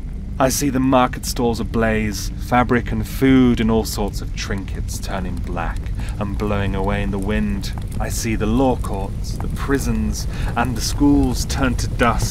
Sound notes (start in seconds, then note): 7.1 fire flickering louder